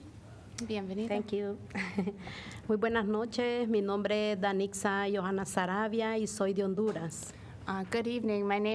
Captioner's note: laughter